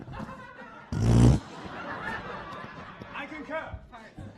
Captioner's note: mimicking flatulence